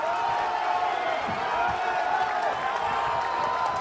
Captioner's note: cheering